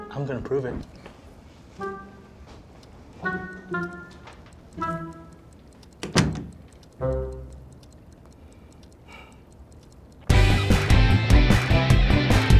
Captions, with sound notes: I'm gonna prove it. (watch ticking) (sighs) (upbeat music)